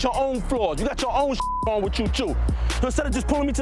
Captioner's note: beep